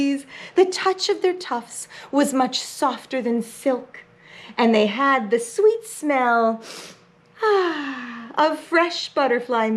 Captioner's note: sniff